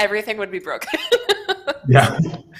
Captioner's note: laughs